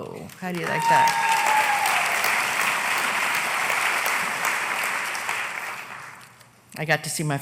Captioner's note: applause